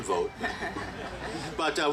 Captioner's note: group laughing